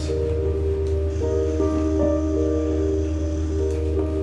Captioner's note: sonic buzzing